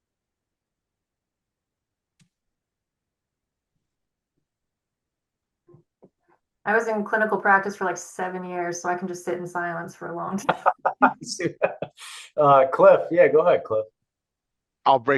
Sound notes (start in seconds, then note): 10.4 chuckles; 10.4 laughing